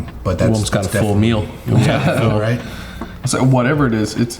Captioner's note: laughing